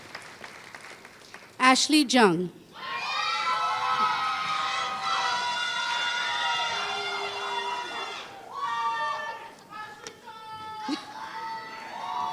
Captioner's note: applause